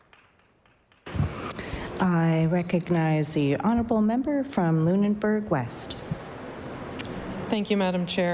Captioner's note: applause